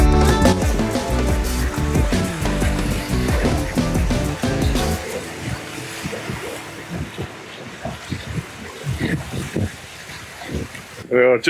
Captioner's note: sound of waves